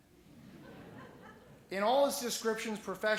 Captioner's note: laughing